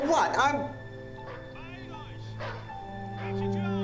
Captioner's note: dogs barking; speaking german